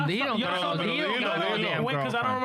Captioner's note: speaking In Spanish